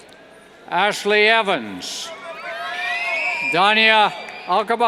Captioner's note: cheers